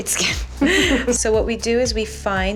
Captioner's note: laughing